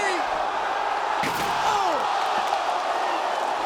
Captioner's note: table crunching; crowd cheering